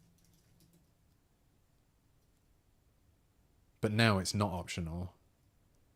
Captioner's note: silence